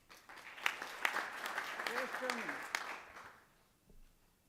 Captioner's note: applause